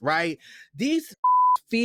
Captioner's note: beep